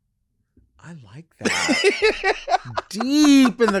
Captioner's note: laughing